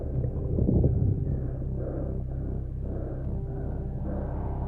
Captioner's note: breathing hard continues